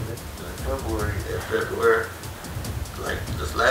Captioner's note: recording plays